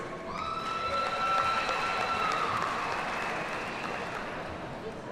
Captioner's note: audience cheers and applauds